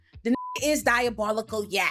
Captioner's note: beep